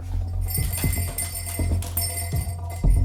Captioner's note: bells jingling